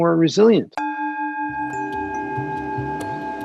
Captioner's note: bell chiming; relaxing music